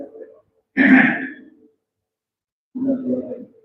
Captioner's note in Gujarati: ગળું સાફ કરે છે